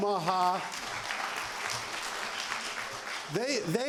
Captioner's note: applause